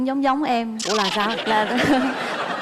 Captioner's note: laughing